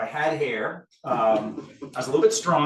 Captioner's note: audience laughs